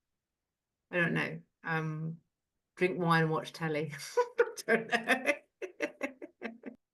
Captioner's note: laughs